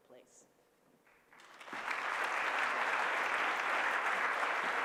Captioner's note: applause